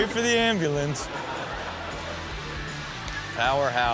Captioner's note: audience laughs